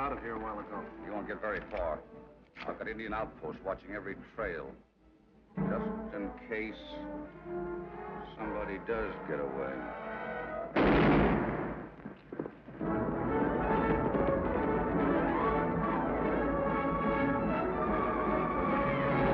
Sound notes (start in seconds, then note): 10.1 tense music; 10.7 gun bangs; 12.8 exciting music